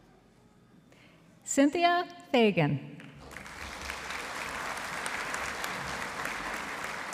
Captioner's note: audience applauding